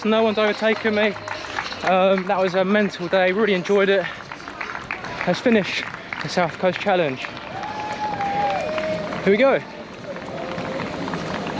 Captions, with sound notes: No one's overtaken me. That was a mental day. Really enjoyed it. Let's finish the South Coast Challenge. (crowd applauds) Here we go.